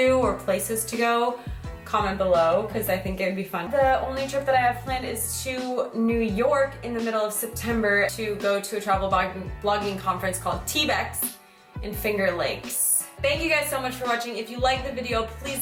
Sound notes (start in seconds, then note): none